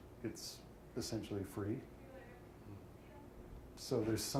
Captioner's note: none